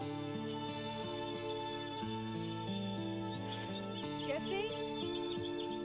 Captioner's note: doorbell ringing